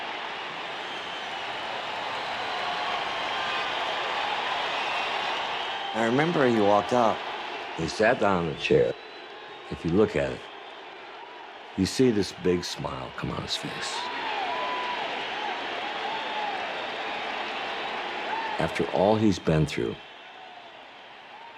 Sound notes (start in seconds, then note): 13.7 cheers and applause